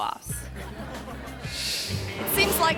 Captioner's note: audience laughing